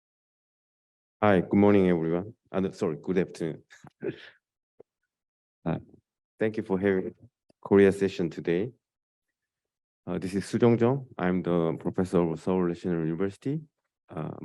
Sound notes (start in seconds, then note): 3.8 laughs